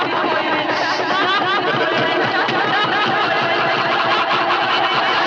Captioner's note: overlapping, echoing intensify